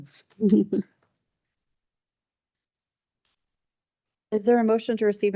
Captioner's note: person chuckles